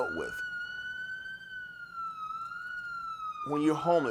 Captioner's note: siren